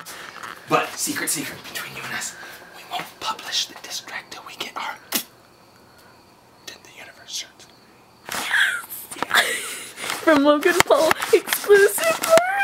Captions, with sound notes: *whisper* But! secret secret between you and me we won't publish the disstrack until we get our......... Dent the universe t-shirts YASSSSS! *Fangirling*